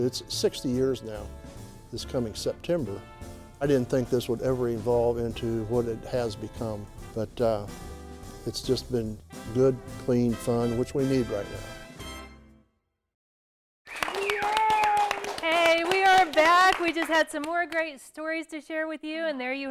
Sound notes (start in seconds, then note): 13.8 applause